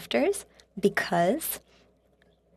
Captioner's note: speaking French